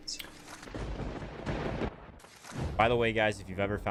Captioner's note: lightning strikes